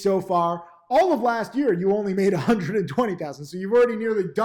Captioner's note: laughs